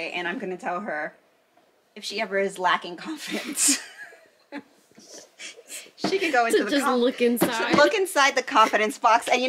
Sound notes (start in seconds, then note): 3.2 laughs